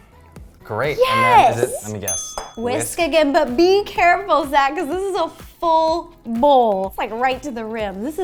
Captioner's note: bloop; ding